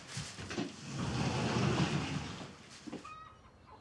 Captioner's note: door whooshes; chickens clucking